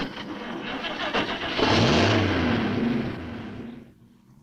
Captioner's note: engine revving